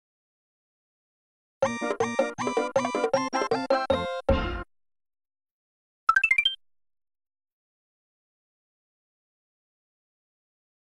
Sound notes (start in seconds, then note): 1.6 16-bit video game music; 6.1 16-bit 1UP sound